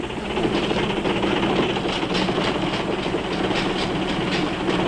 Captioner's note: engines rumbling